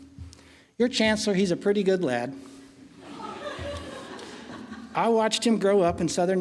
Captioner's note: laughing